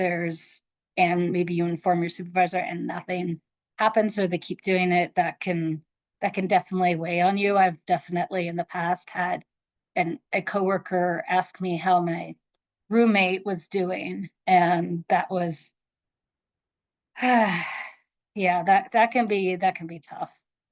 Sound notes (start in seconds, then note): 17.2 sighs